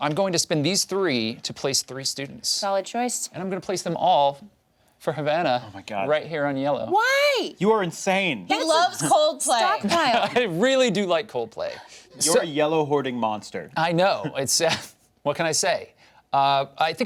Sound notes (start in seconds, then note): 14.8 chuckles